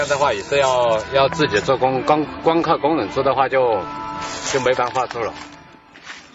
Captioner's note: foreign language